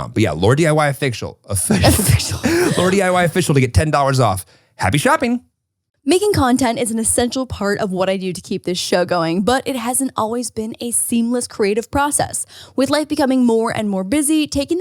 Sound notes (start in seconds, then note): 1.6 laughing